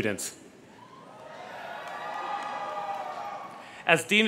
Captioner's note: crowd cheers